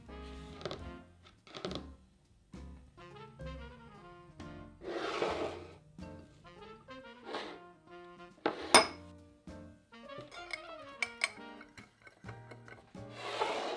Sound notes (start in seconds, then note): 11.0 stirring seasonings